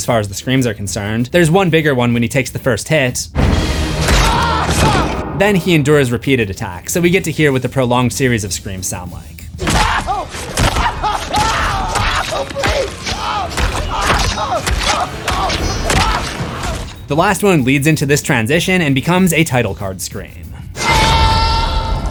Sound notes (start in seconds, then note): 4.0 screams; 13.1 screams